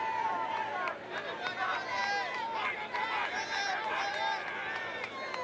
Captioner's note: cheers